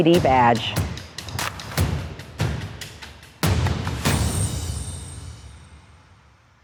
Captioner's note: empowering music continues; water splashes